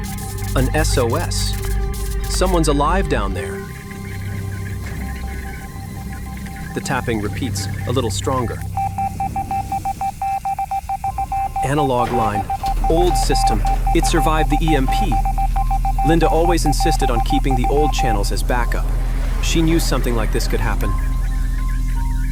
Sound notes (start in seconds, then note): 4.0 tense music; 8.8 rapid ticking